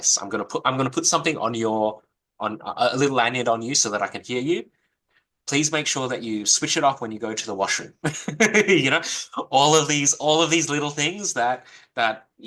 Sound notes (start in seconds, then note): 8.0 laughs